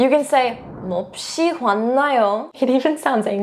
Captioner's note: speaking in Korean